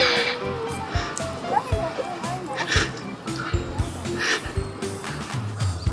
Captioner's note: laughs